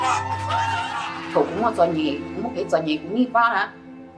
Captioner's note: non-english